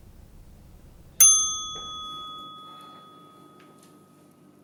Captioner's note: timer dinging